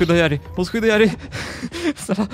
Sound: laughter

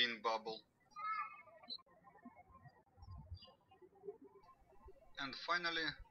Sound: birds chirping

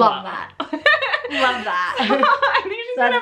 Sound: laughs

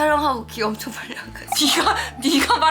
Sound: scratch scratch

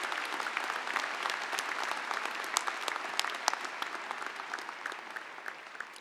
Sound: applause

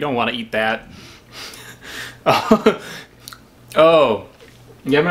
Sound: man laughs

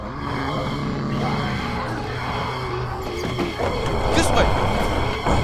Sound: zombie growling; men shouting

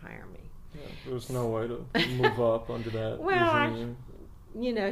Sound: laughs, in response to what she had said

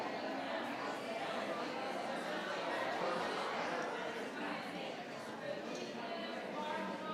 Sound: audience and board members chatting indistinctly continues

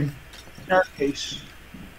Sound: glass breaks

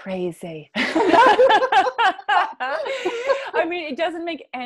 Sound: laughs

